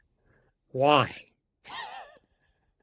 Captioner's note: chuckles